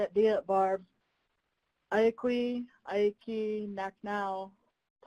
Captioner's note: speaking in foreign language